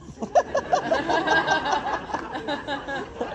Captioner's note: laughs